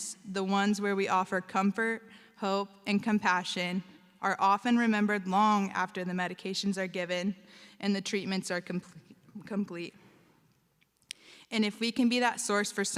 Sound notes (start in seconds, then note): none